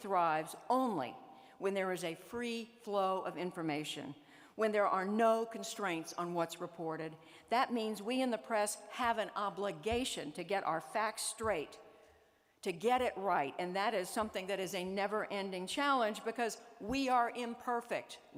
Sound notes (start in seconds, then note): none